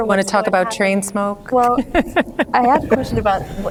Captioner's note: laughs